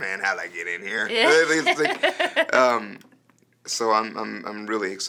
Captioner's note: laughing